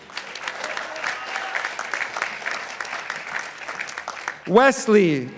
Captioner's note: participants applauding